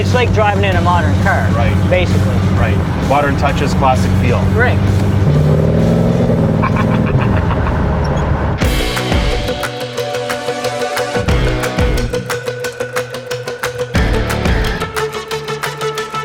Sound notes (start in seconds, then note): 5.8 engine revs; 8.6 upbeat rock music